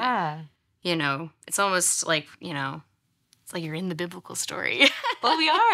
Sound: laughs

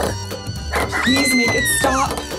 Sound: kid screaming

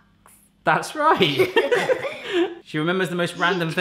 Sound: all laugh

